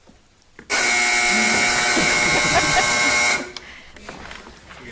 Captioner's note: buzzer blares; buzzer trills; people laughing